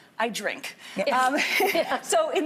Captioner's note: laughing